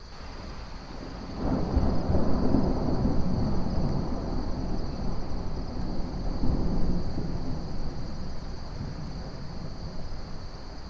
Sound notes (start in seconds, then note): 0.5 wind and crickets